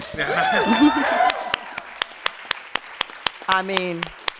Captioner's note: cheers and applause